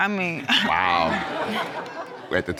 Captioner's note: audience laugh